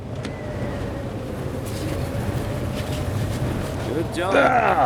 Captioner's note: wind howls